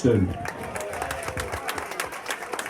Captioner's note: applause